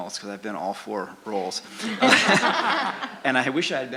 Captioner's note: laughter